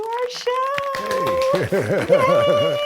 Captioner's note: audience applause